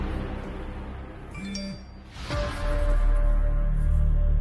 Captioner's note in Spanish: Aviso de mensaje entrante